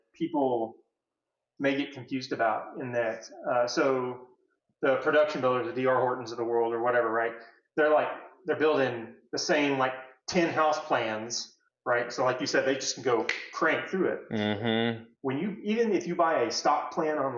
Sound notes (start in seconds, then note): 13.1 snaps finger